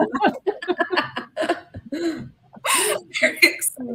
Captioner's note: laughter